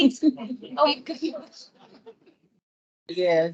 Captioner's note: panel and audience laugh